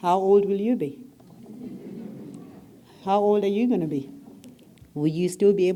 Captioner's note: laugh